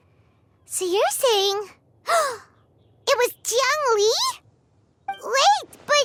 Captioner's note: gasp